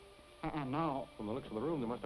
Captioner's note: stammering